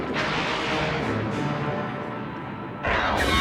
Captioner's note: lightning cracks